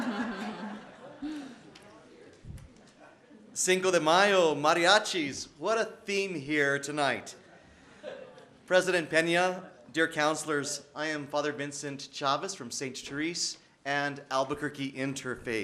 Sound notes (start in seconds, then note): 5.3 laughter